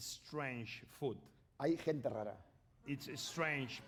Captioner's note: speaking spanish